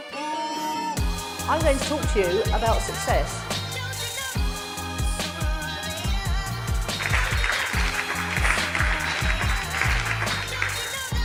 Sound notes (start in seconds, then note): 1.9 soul music; 4.6 soul music; 6.9 applause